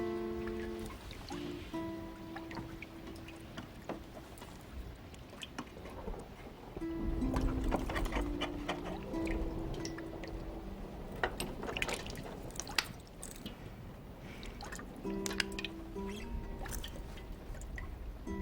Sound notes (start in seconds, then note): 0.0 soft guitar music; 1.9 water dripping